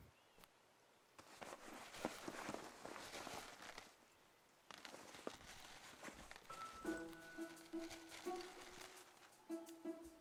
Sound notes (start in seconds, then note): 1.2 bag rustling; 6.4 gentle orchestral music